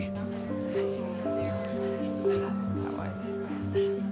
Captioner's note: talking softly in background